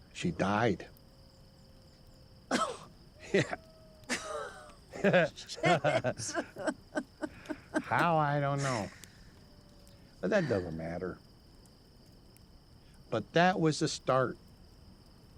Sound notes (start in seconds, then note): 2.5 coughs; 4.0 laughs